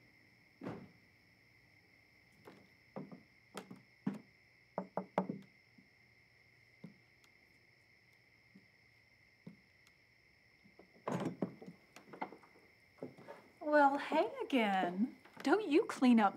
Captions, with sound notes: (knocks on door) - Well, hey again!